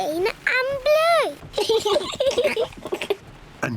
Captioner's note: both laugh